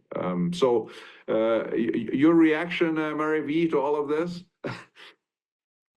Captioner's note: chuckles